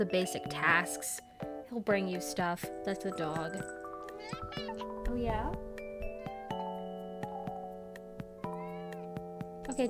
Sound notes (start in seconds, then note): 4.1 interrupting Meows